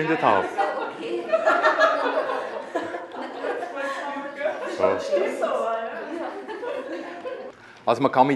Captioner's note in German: lacht